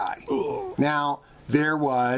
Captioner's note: man suddenly groans